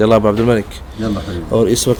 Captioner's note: Arabic